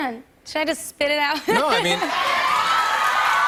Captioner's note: cheers and applause